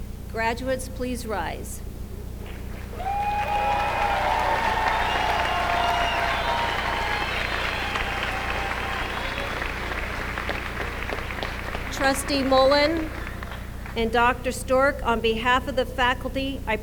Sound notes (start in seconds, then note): 4.0 applause